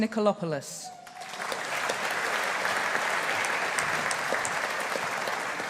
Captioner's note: audience applauding